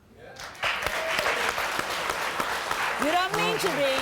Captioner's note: crowd clapping